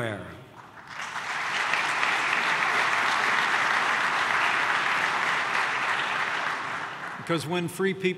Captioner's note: applause